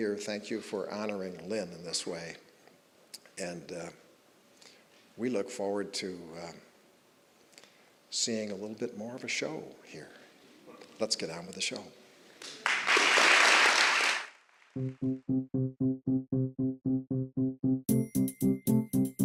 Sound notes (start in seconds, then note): 12.4 applause; 14.8 carefree music